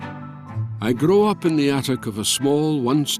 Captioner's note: Voz en off